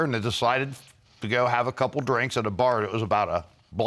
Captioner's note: none